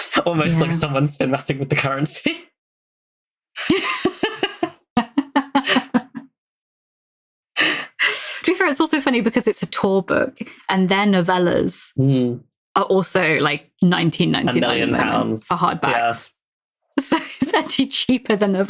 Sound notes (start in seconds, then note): 3.7 laughing; 6.4 laughs